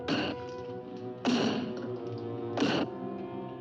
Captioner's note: bang